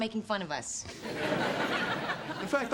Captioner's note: audience laughs